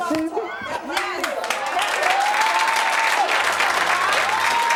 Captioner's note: audience cheers